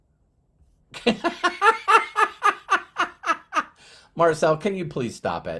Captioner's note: laughs